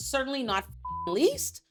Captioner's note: beep